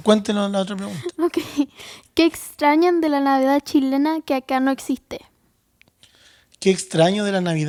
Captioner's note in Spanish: risas